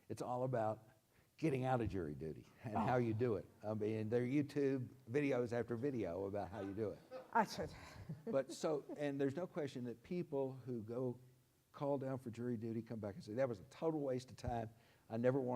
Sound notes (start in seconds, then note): 8.1 crowd laughs